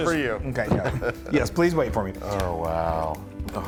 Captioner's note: laugh